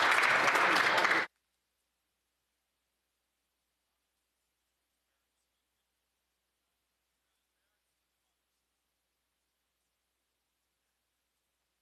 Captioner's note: some Applause